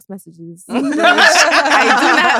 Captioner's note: laughs